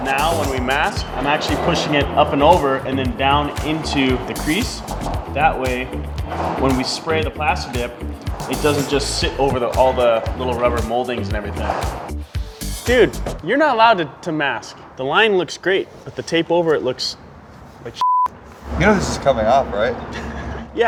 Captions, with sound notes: Now, when we mask, I'm actually pushing it up and over and then down into the crease. That way, when we spray the plasti-dip, it doesn't just sit over all the little rubber moldings and everything. Dude, you're not allowed to mask. The line looks great, but the tape over it looks like (beep). - You know this is coming off, right?